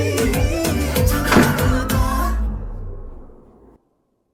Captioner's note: gunshot